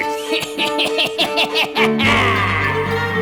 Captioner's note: laugh